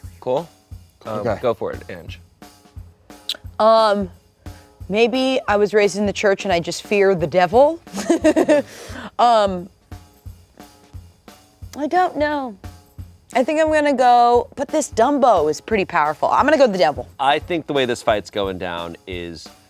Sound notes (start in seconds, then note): 7.9 laughs